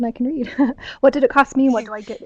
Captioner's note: chuckles